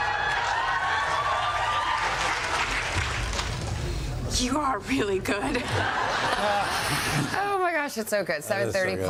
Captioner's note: laughter